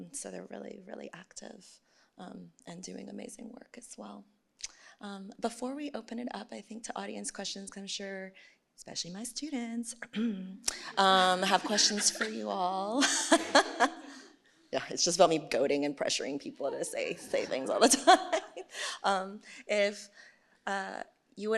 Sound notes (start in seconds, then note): 10.1 clears throat; 10.9 laughs; 17.2 laughs